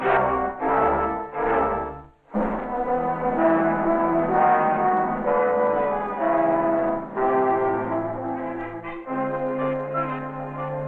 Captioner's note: bell